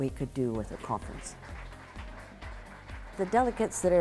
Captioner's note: applause